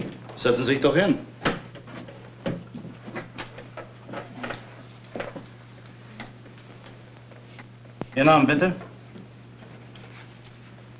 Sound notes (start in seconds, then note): 0.3 German; 7.5 man #2 Speaking German